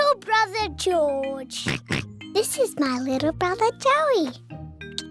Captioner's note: oinks